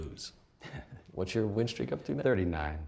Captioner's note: chuckles